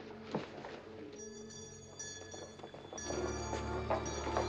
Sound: bell Ringing

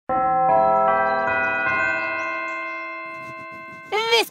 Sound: bell chimes

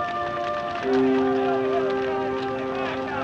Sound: men clamoring

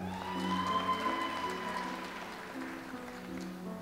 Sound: audience applauds

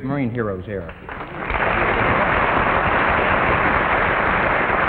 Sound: audience applause

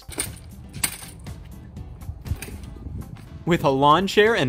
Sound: chair rattling

